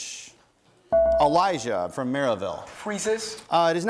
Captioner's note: bell rings